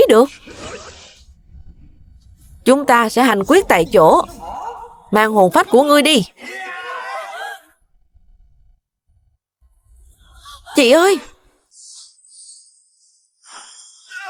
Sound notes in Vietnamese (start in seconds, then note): 7.1 tiếng cười